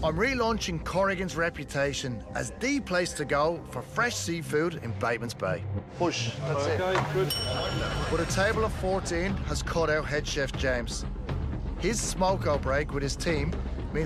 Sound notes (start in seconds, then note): 7.2 kitchen bell sound